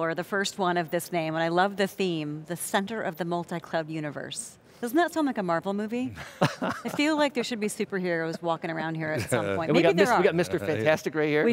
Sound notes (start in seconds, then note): 6.1 laughs; 9.1 laughs